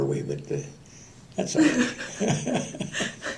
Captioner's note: laughter